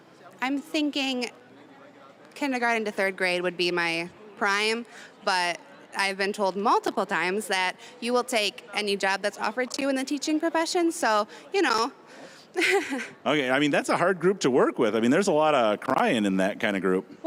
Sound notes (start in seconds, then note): 12.5 chuckling